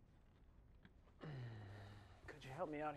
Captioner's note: uncomfortable sigh